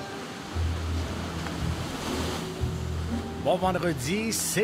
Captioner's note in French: radio